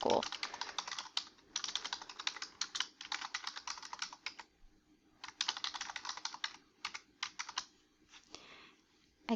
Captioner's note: typing on keyboard